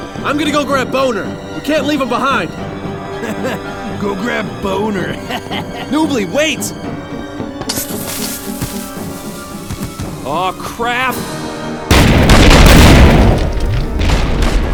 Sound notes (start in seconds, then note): 3.2 laughs off screen; 5.0 laughs